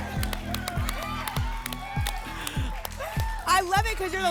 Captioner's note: applause and cheering